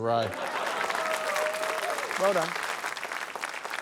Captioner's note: applause